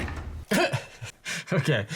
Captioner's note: chuckles